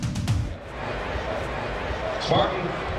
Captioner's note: crowd chattering